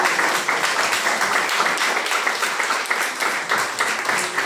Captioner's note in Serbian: аплауз